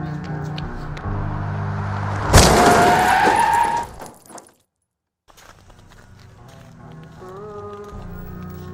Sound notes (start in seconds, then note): 1.9 bang; 2.4 tires screeching; 7.4 singing